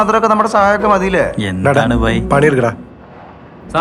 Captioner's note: murmuring